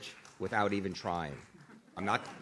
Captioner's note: audience claps